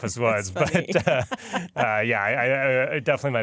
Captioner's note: laughter